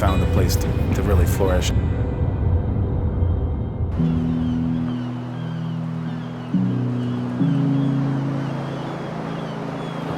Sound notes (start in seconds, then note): 4.0 seagulls squawking; 7.6 soft music